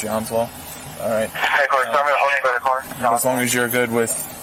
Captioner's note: radio chatter